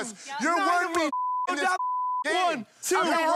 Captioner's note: beep